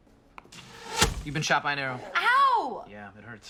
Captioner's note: arrow shooting noise